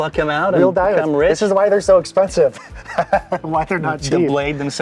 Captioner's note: laughs